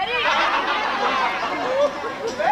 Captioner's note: γέλιο